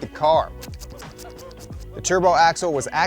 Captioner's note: spraying sound